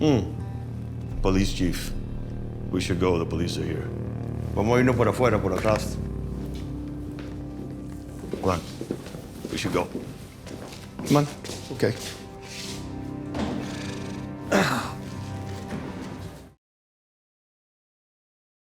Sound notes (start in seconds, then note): 4.5 speaking spanish